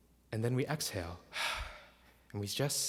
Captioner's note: exhales